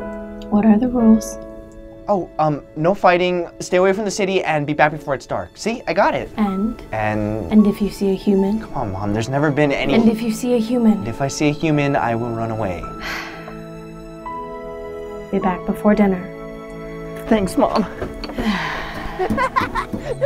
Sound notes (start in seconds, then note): 13.0 Momma Pikachu sighs; 19.0 Pikachu laughs